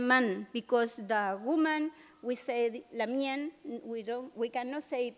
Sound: non-english

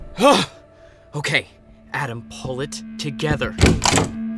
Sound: door closed

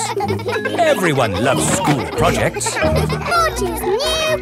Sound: children laughing

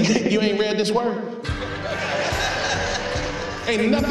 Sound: laughter

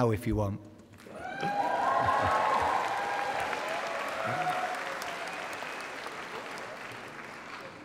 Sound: applause and cheering

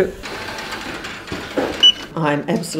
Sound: machine noises

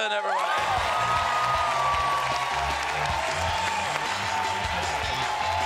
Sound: cheers and applause

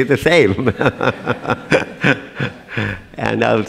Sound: laughter

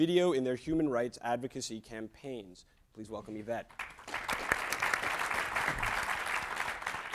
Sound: applause

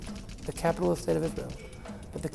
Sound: computer sounds

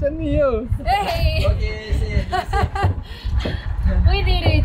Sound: laugh

